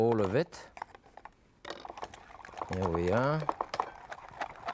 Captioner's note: strainer rattling